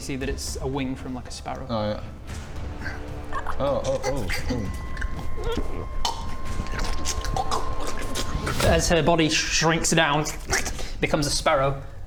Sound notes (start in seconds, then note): 5.3 gross slurping noises; 5.5 gulp